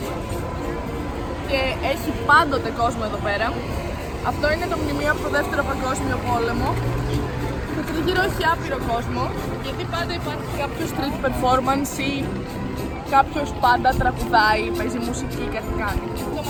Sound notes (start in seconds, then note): none